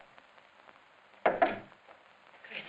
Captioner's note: knocking on door